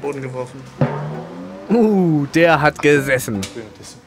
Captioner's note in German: Dumpfer Ton